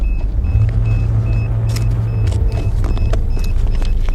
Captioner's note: beeping